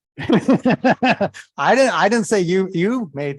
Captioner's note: laughter